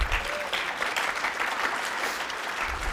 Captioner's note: applause